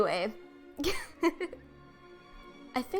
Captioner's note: chuckle